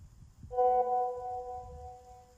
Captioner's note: message alert tone